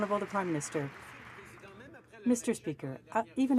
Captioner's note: some Applause